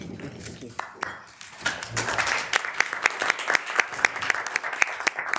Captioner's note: members applauding